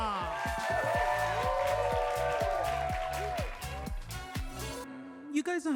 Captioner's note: audience cheers and claps